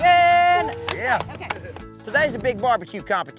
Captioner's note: clapping